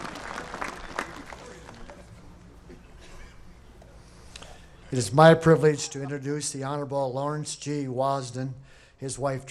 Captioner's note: applause